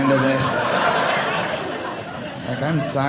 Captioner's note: audience laughing